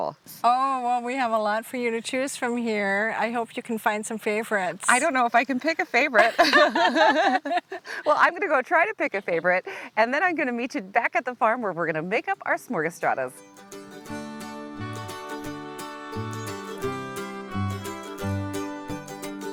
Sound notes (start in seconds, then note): 6.1 laughing; 13.5 midtempo music